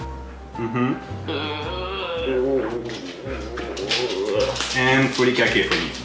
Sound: groans

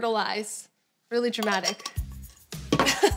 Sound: lid clangs; laughs

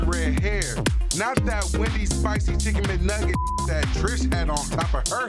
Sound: beep

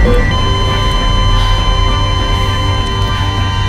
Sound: steady beeping

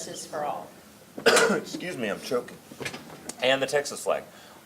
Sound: coughing

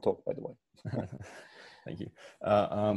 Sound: laughs

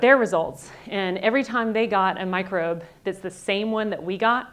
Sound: none

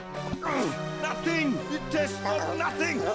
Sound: grunting

